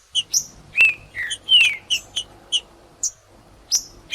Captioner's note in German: trinca ferro cantando; trinca ferro cantando